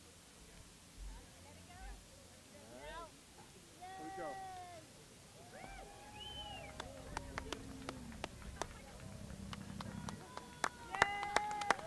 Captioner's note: cheers and applause